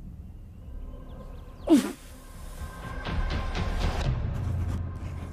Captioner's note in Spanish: Exclamación